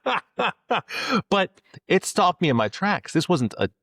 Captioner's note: both Laughing